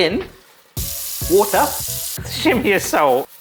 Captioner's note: tap water gushing